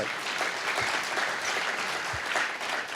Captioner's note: applause